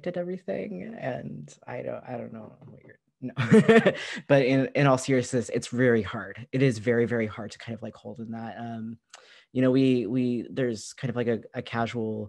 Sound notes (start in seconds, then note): 3.3 laughter